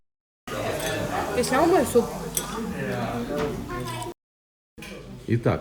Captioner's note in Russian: гомон голосов